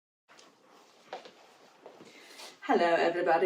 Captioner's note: footsteps patter